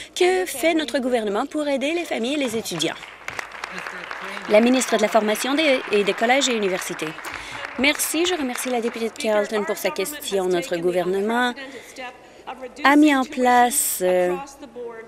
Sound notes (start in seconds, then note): 5.3 applause